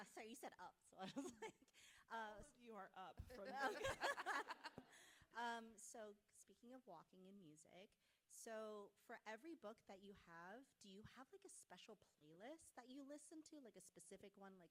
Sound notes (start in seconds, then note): 3.4 everyone laughing